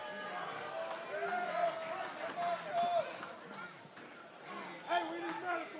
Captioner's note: crowd chatter